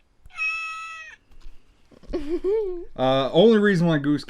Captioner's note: toy meows